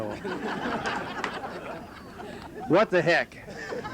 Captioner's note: laughter